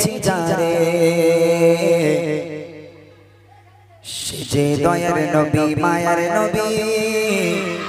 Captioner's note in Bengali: সশব্দ হাসি